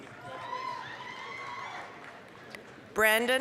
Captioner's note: applause, cheering